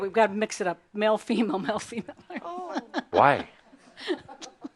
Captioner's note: she giggles